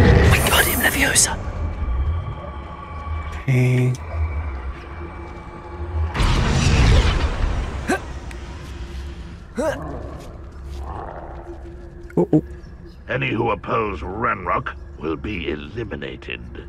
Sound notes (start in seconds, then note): 9.6 troll roars